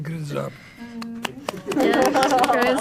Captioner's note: laughing